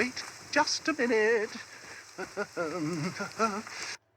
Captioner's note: laughter; humming and laughing; humming